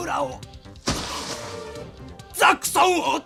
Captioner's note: SFX: body falls on the ground